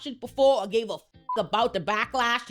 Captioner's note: beep